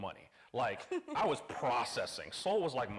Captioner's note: laughing